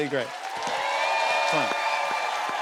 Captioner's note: cheers and applause